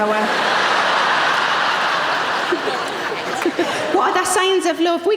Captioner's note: audience laughing